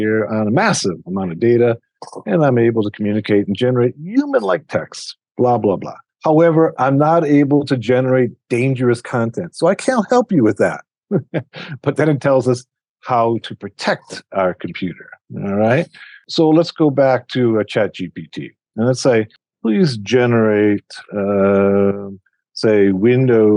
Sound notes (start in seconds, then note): 11.1 chuckles